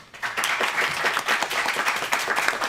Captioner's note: applause